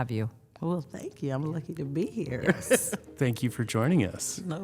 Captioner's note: laughs